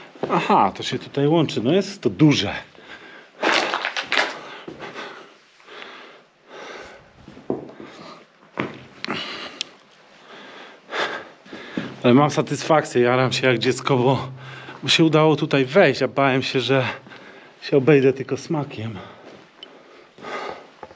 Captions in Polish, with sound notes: Aha to się tutaj łączy No jest to duże [Aplauz] ale mam satysfakcję Jaram się jak dziecko bo się udało tutaj wejść a Bałem się że się obejdę tylko smakiem